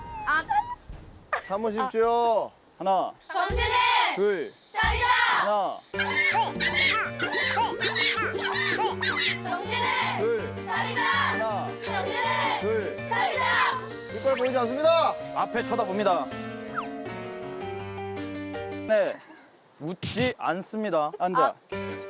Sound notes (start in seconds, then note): 18.9 laughs